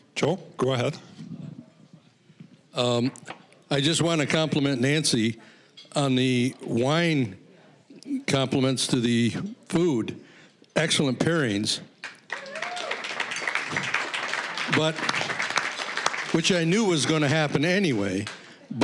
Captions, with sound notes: Joe, go ahead. >> I just wanna compliment Nancie on the wine complements to the food. Excellent pairings. (applause) But which I knew was gonna happen anyway.